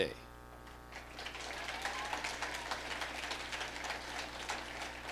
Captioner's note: audience applauding